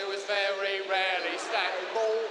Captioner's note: crowd laughs